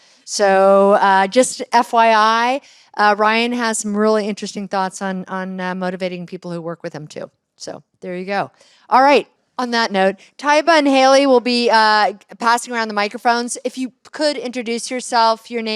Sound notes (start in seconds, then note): none